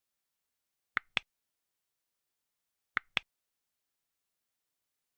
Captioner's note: clicking